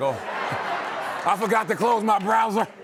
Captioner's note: laughter